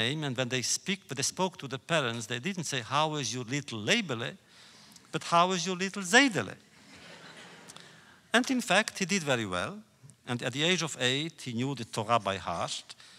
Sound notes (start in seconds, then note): 6.7 laughter